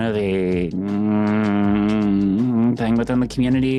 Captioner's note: humming